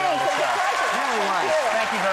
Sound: audience applauding

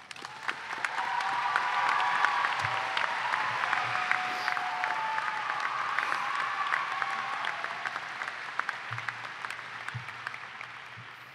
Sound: applause and cheering

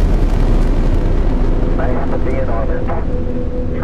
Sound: radio voice 4

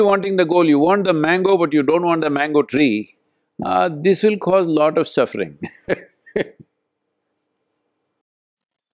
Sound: laughs

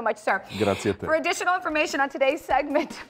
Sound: spanish phrase

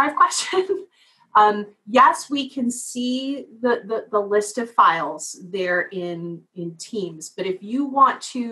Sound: laugh

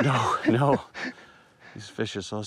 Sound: laughs

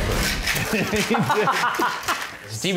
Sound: ice shaking; laughing

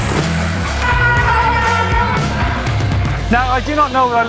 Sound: splashing; upbeat rock music; brakes squeaking

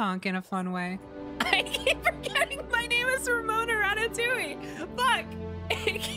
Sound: laughing

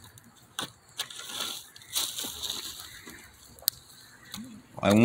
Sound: stick rustling around in the burning embers

